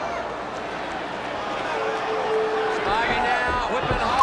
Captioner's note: crowd chatter